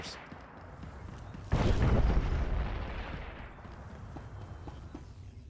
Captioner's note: explosion